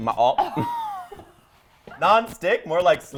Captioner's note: both laugh